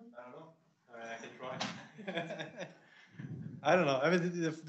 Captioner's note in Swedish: skratt